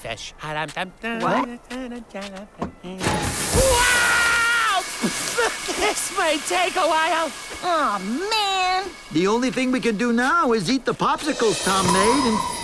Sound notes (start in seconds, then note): 1.0 humming; 3.5 screams